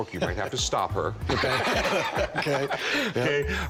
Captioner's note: both laughing